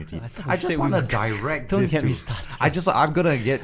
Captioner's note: laughs